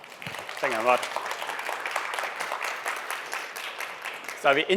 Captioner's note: applause